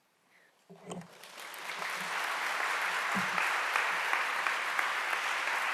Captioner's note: applause